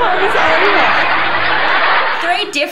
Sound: laughing

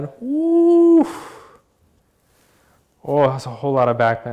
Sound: exhaling

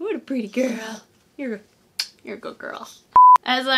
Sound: smooches

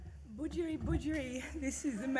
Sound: speaks in foreign language

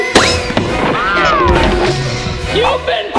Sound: pop sound

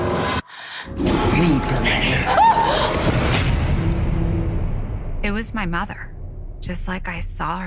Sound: screaming

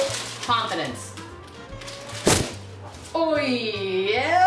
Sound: thudding

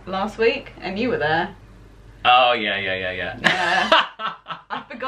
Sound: laughter

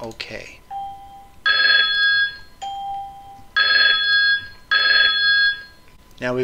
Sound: audible alarms sounding

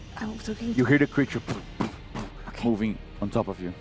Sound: pluff pluff pluff

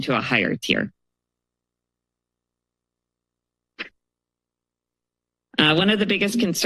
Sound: pause

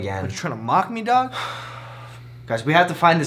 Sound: sigh

